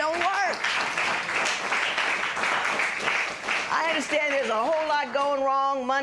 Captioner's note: applause